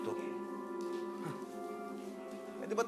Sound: scoffs

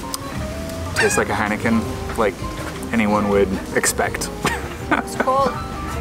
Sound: laughs

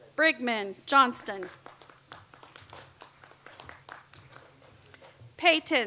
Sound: audience applauds

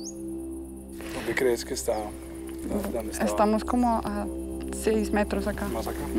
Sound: bird flapping its wings and chirping; speaking in foreign language

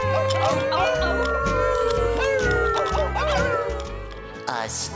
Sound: howling

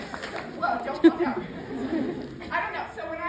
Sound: class laughs

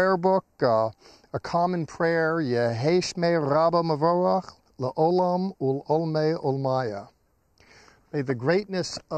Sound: speaking in Hebrew

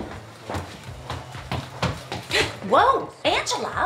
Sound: none

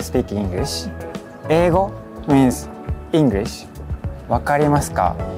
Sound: speaking in Japanese

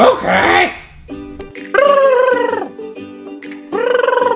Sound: gurgling

